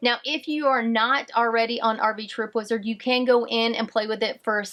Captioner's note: none